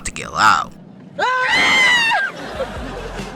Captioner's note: screaming